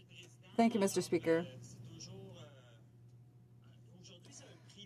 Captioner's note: speaking in french